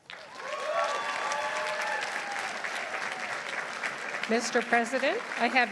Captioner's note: audience applauding; audience cheering